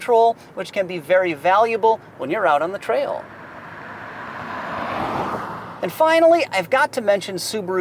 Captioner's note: car revving